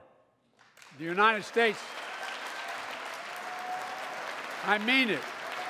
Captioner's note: applause